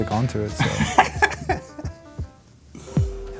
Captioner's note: laughs